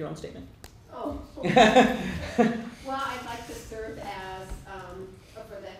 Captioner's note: laughter